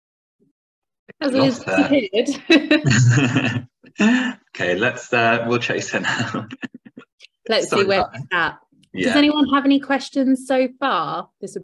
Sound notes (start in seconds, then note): 1.3 chuckles; 6.8 chuckles